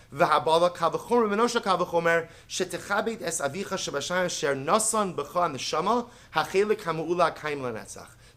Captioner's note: Hebrew